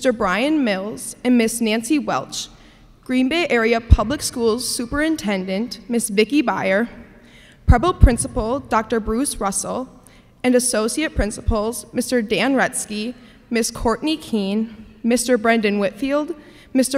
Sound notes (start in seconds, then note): none